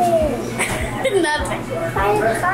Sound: laughs

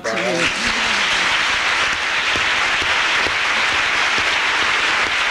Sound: applause

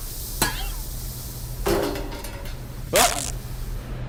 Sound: metal clunk; fabric tears

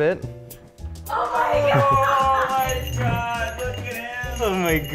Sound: laughter

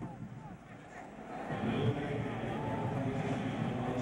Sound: stadium announcement

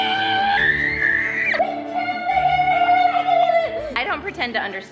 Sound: screaming in excitement

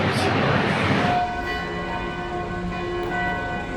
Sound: I hear bell ringing from somewhere

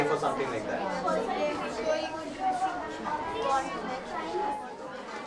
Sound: students discussing

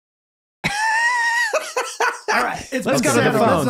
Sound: laughing

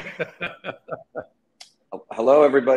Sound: both laughing

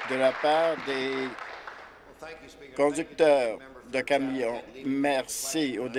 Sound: applause

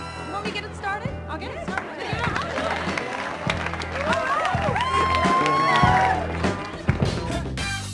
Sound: people clap and cheer

